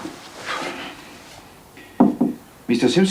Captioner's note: Knocks